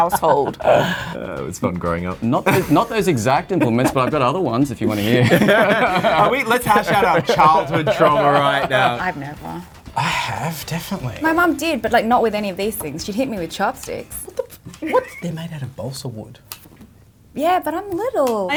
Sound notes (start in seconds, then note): 0.0 laughs; 5.6 both laugh